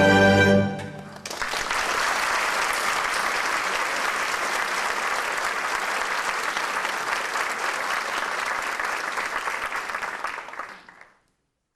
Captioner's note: applause